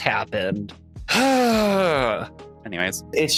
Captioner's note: sighs